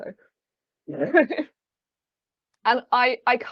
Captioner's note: laughing